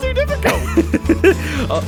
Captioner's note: laughs